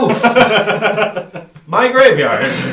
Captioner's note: laughs